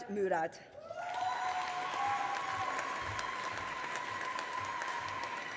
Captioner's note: audience applauding